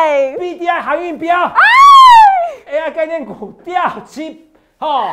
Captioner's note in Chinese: 慘叫